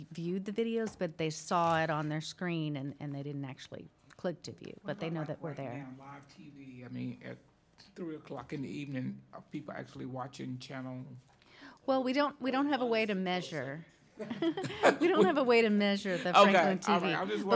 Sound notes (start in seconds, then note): 14.2 laughing